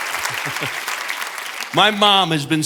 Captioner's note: chuckles